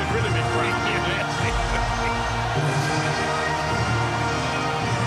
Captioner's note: laughs